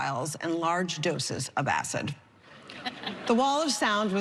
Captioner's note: laughter